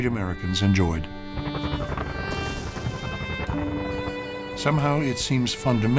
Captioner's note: helicopters whirring, bombs exploding